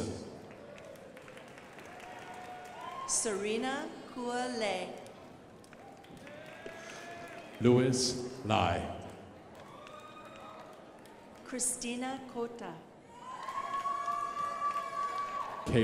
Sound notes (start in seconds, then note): 0.0 crowd applauding; 5.0 crowd applauding; 13.1 crowd applauding